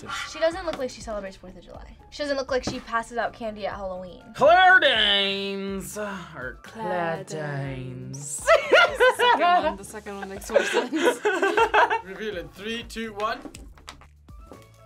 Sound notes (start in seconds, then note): 6.6 accented; 10.0 both laugh; 10.2 laughs